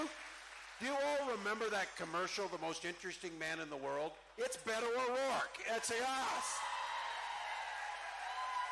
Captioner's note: cheering